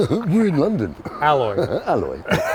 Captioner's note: laughing